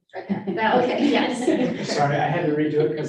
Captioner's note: women laughing